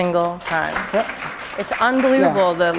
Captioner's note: applause